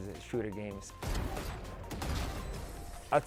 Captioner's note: game sound effects